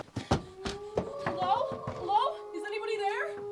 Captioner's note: frantic knocks